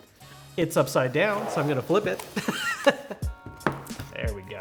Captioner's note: laughs